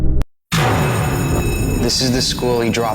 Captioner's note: locker slams, school bell rings